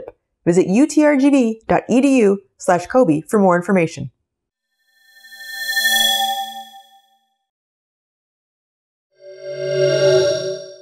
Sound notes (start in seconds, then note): 5.0 swoosh; 9.3 swoosh